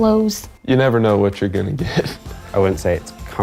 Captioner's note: chuckles